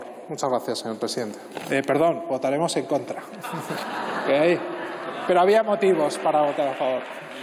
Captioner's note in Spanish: risas